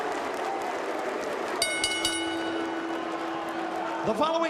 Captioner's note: bell ringing